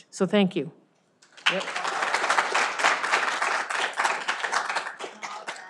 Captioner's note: all clapping applauding